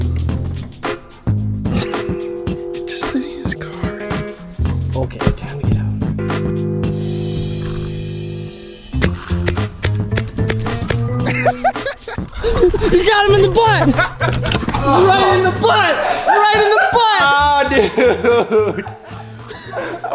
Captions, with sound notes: - He's just sitting in his car - okay time to get out (upbeat flute music) (paintball gun hissing) (laughing) - You got him in the butt (laughing) - Right in the butt, right in the butt